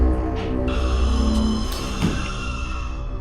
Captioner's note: Skinwalker screams in distance